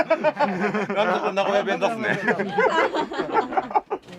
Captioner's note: laughs